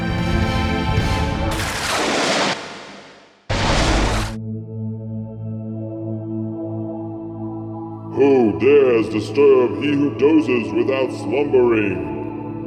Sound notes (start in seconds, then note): 1.5 world shattering noise; 3.4 world restarting noise